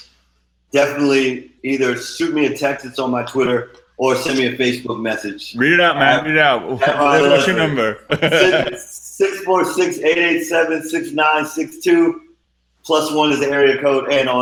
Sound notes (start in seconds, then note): 7.0 laughing